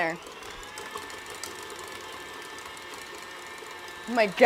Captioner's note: whirring